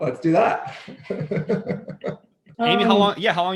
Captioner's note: laughing